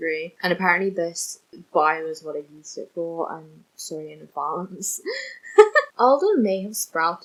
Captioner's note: laughs